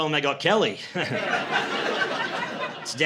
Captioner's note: laughter